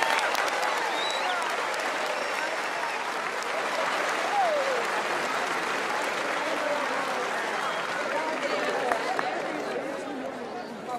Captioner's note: cheers and applause